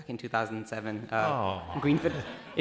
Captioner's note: laughing